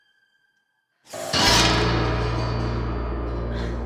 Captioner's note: loud crash